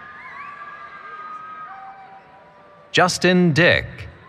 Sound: cheering

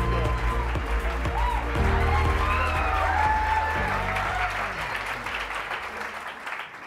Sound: audience continues clapping and cheering

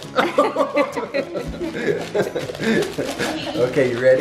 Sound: laughing

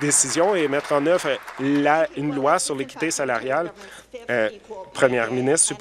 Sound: applause

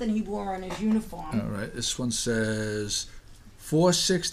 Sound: voiceover

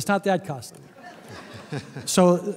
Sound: laughter

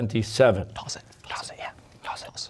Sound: whispering

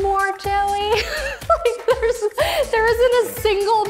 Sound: laughs

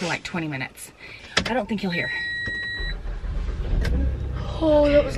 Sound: car beeps

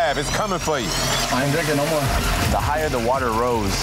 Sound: water gurgling

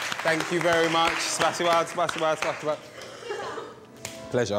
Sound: speaking in foreign language

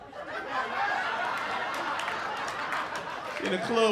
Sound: laughter

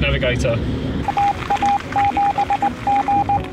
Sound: beeping

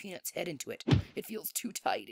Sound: thump

